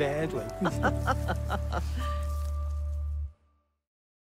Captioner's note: laughs